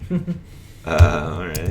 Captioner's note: chuckles